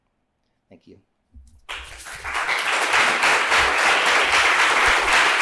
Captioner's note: applause